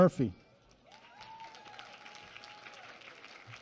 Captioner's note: applause